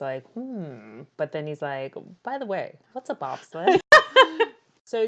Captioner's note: laughs